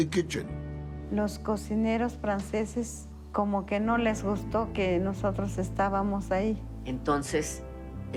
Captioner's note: in Spanish